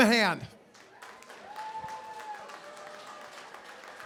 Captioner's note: cheering, applause